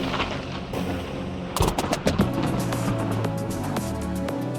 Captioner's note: sound of thunder; eerie transition sound; party music begins playing